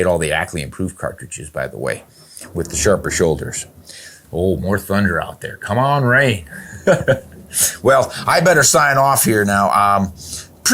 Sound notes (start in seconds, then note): 6.4 laughs